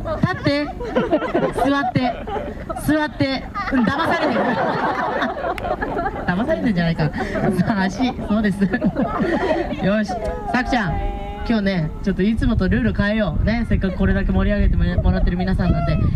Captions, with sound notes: stand up sit down sit down Don't be fooled [ hahaha ] Will you be deceived? foot! correct Sakura what about today Let's change the previous rule for everyone who cheers for us